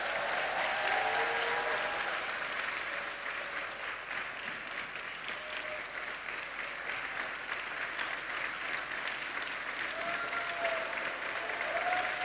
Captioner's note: applause